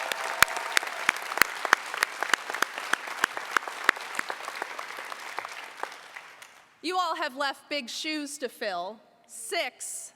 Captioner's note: applause